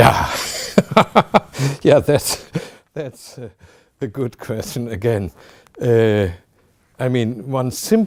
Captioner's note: laughing